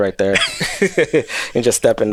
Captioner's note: both laughing